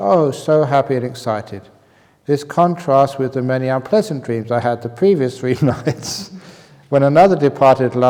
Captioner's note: chuckles